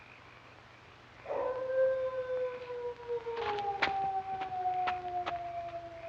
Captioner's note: hound howling